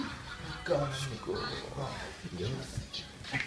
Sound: groans

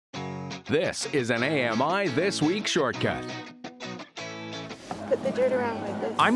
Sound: voiceover

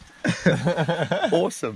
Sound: everyone laughing

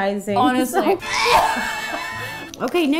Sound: laughing; choking

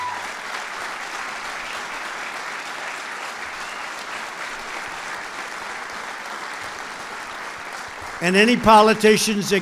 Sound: applause

